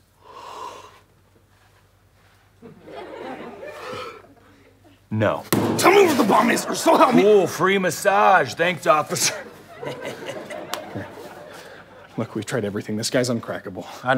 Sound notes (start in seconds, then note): 0.3 yawning; 2.6 audience laughter; 5.5 bang; 7.5 sarcastically; 9.1 chuckles